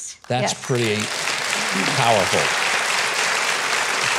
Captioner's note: audience applauding